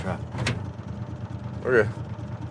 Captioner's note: door clicking; engine rumbling